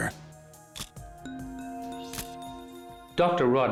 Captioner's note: camera shutter click